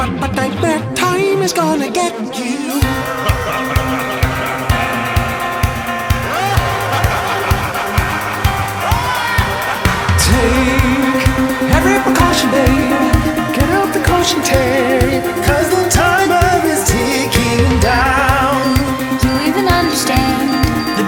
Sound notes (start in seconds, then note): 2.6 laughing; 2.6 upbeat music